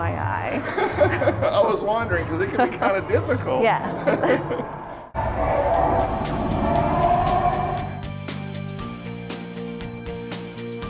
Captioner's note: laughter